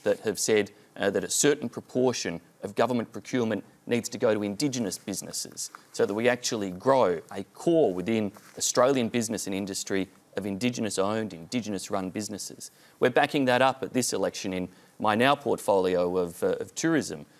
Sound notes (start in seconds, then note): none